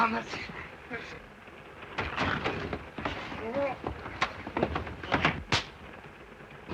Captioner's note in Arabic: صوت صراع; صوت خشخشة القطار